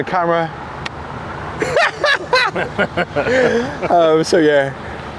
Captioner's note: laughs